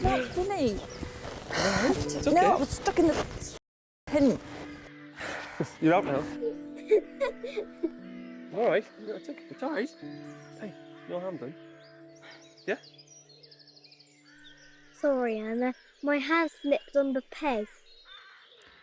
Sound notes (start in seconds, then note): 5.2 sighing; 6.7 both laughing; 13.1 birds chirping